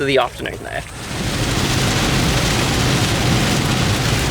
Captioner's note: rain thudding